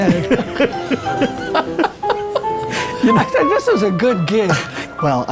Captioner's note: laughs